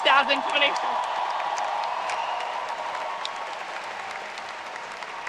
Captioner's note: audience cheers